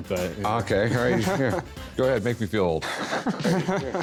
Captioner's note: laughter